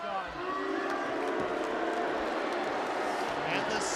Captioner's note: audience jeering